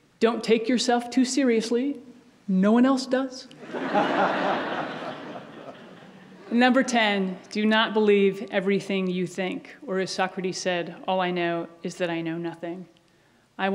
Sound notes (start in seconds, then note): 3.6 audience laughs